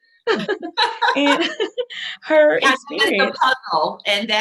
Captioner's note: laughing